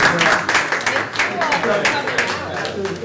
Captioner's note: applause